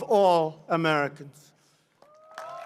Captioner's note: applause